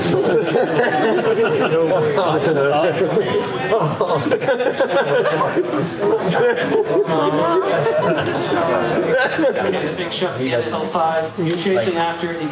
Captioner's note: audience: Ohhhhhhhh!